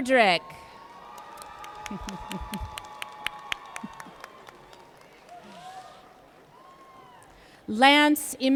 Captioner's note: applause & Cheer